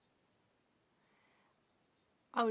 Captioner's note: speaking French